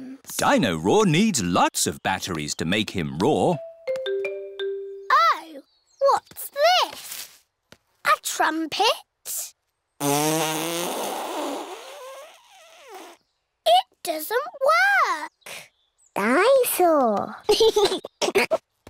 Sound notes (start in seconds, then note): 10.0 blows raspberry; 17.5 giggles